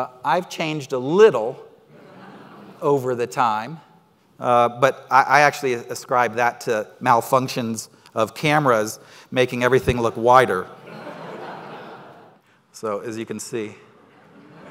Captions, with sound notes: I've changed a little over the time, but I actually ascribe that to malfunctions of cameras, making everything look wider. (crowd laughing) So as you can see.